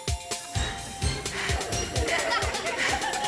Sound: panting

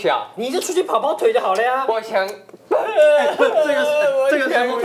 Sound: the younger brother is hurt and starts crying

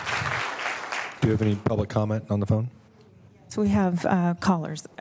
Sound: applause

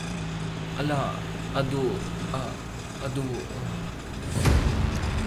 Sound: Chandan stammers in fear

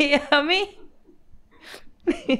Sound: laughs

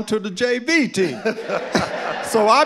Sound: audience laughing

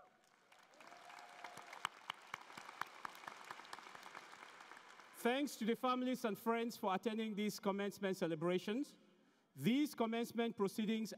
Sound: cheering and Applause

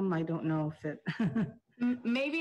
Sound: chuckles

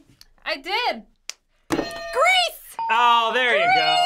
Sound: hitting bell

